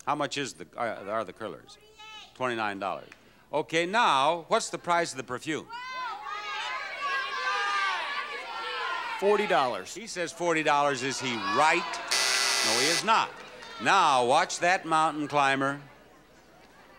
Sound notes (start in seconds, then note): 5.8 audience shouting; 12.1 bell buzzing